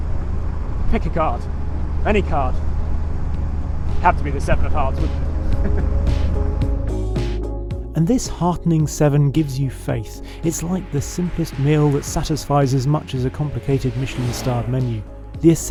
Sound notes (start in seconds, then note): 5.4 chuckles; 6.6 upbeat mellow music